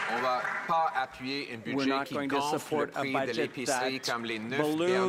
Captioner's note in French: voix de l'interprète